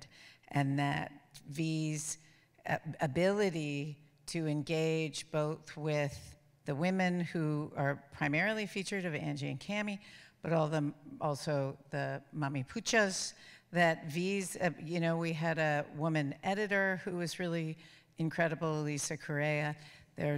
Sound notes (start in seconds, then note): 11.5 speaks foreign language